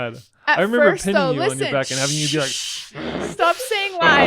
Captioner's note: makes growling sound